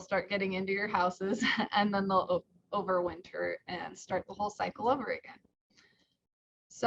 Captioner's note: chuckles